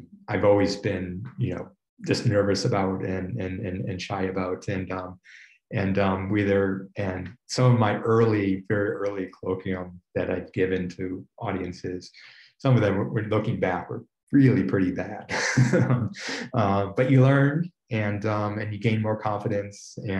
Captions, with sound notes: I've always been, you know, just nervous about and shy about, and whether... and some of my very early colloquium that I'd given to audiences, some of them, looking back, were really pretty bad. (laughs) But you learn and gain more confidence